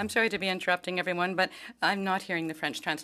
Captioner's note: speaking French